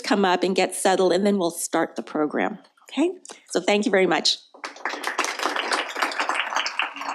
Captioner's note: applause